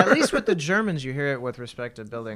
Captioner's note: laughter